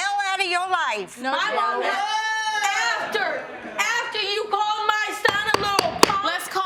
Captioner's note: gavel pounding